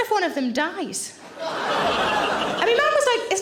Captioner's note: audience laughing